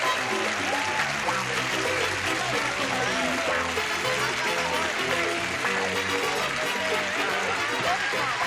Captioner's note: cheering